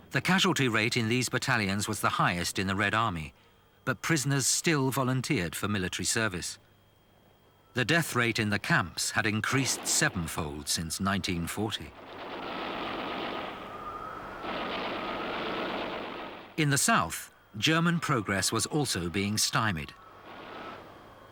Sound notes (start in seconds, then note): 11.9 guns firing; 12.5 wind howling